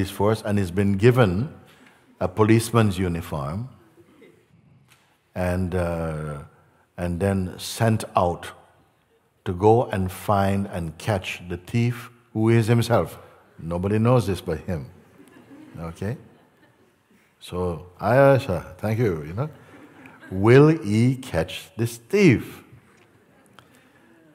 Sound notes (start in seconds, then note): 16.3 Lachen